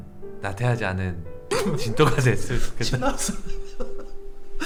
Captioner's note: failed to hold back his laughter